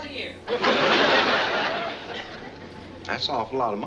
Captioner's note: audience laughing